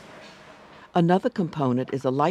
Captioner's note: voiceover